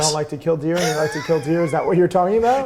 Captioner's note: laughs